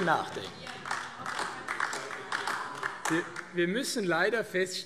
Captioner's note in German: Beifall AfD - Zurufe SPD und DIE LINKE